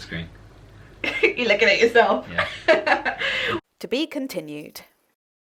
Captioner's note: laughing